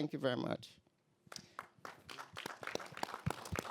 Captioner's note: applause